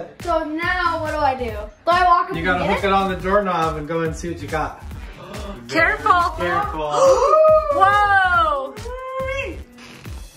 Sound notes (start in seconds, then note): 5.0 parents gasping; 7.7 parents gasping